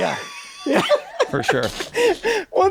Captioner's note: laughing